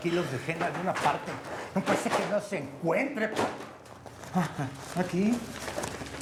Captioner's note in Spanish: Ruidos al tirar cosas